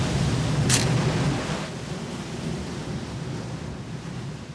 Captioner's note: camera snapping